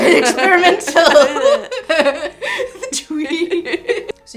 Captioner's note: laughter